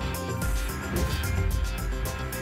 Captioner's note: whoosh